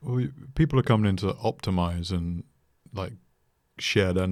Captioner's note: none